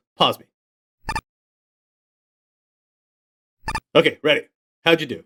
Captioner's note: icon beeping